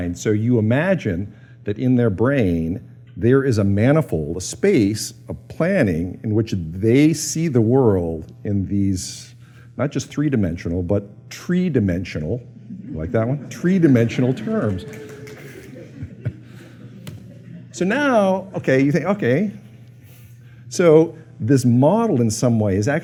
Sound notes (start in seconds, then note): 14.8 laughter